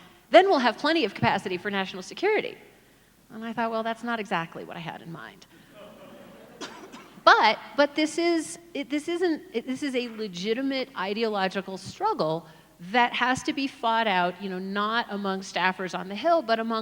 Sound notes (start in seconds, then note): 5.7 audience laughs